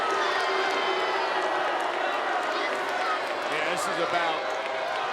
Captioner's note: crowd boos